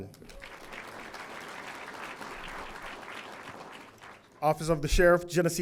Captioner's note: audience applauding